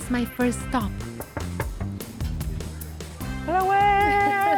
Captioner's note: knocking